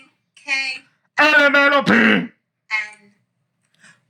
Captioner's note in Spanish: Hablando en idioma extranjero